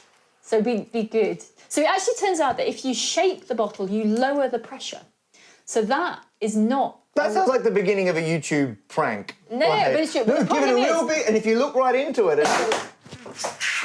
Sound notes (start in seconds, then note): 12.4 pop